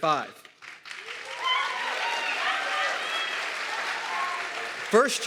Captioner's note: audience clapping and cheering